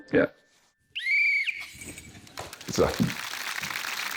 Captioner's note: blows whistle; cheering, applause